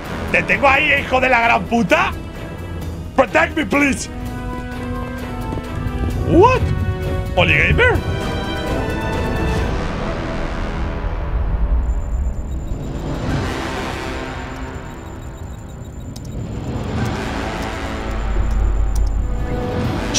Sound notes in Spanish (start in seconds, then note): 4.5 Música de tensión; 8.7 Música de tensión; 14.0 Tecleo de ordenador